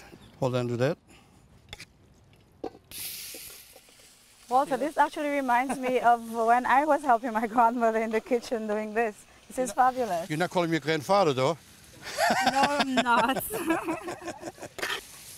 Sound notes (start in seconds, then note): 1.3 clanking; 2.0 sizzling